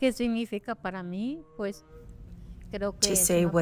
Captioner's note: speaking Spanish